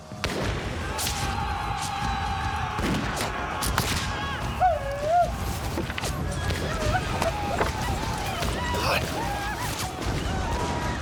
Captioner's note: gunfire; gunshot; war cries